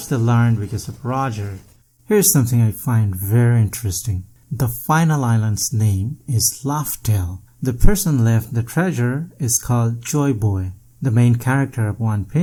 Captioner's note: laugh